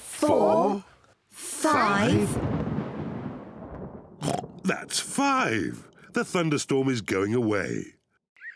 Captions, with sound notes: four, five... (THUNDER RUMBLES) (OINKS) That's five! The thunderstorm is going away.